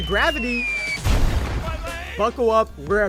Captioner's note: crash